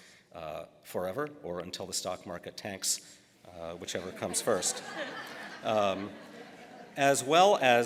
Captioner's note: laughter